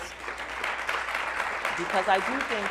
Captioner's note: applauding